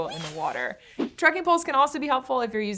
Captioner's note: none